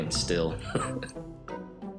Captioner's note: laughs